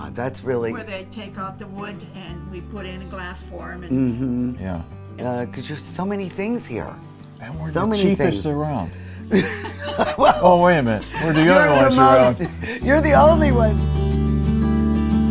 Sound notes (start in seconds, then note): 9.3 ladies laughing